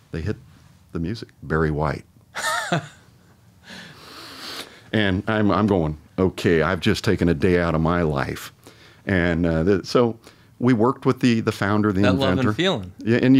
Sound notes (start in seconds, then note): 2.4 chuckles